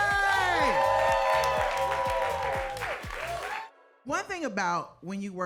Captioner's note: audience cheers and applauds